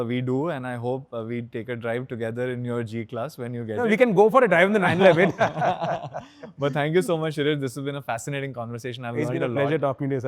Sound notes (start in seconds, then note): 4.9 chuckles; 4.9 laughing